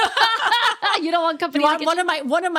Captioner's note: laughing